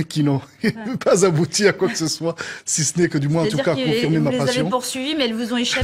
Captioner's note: laughters